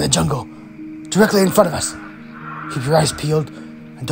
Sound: shrieking

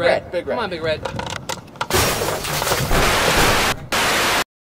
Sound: crashing noise

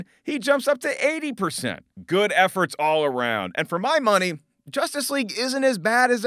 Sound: none

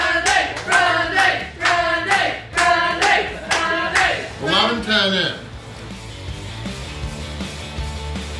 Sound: crowd

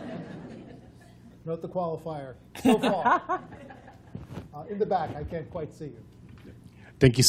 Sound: laughter; laughter

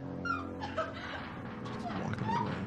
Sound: woman crying

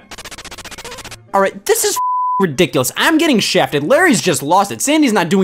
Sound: beeping

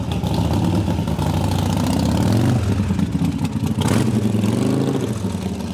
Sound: motobike revs

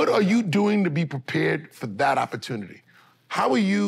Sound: none

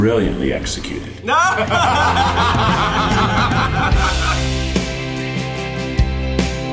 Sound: uplifting music continues; all laughing

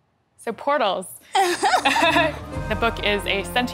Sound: laughter

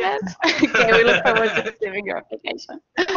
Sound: laughs

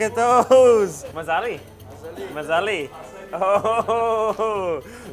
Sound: in foreign language

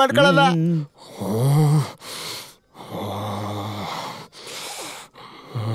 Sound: growling

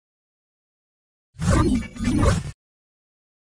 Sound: whoosh whump as portal opens and closes

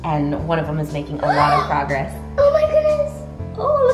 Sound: gasps

